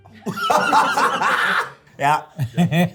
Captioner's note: all laugh